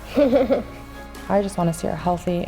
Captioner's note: chuckles